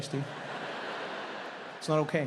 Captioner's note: audience laughs